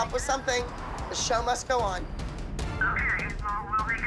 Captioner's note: on phone